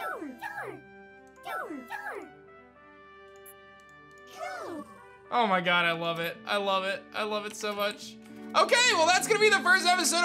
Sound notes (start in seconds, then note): 1.5 Toruga cry; 4.3 Cubzero cry